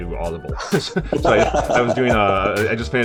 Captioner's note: laughter